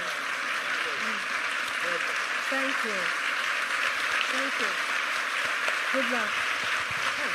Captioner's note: applause